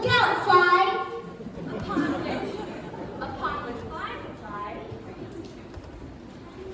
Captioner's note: laughter